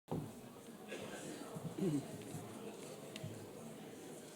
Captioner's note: audience chatter